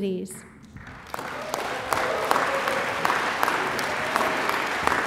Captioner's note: audience applauds